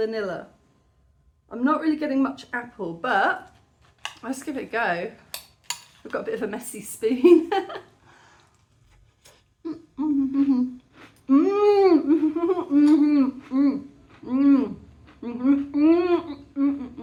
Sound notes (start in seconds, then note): 9.6 very happy mouth noises; 9.8 crunching